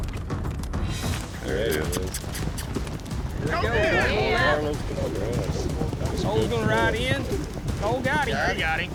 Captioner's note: all shouting